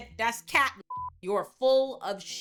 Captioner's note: beep